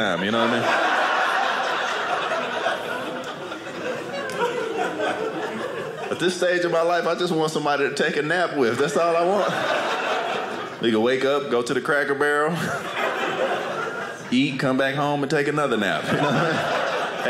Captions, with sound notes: You what I mean? (audience laughing) At this stage of my life, I just want somebody to take a nap with. That's all I want. We going to wake up, go to the Cracker Barrel, eat, come back home and take another nap.